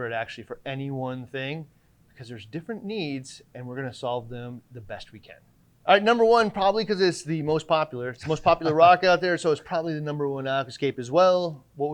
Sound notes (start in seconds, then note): 8.2 chuckling